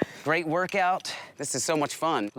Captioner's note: laughs